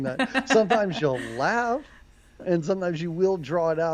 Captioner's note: laughs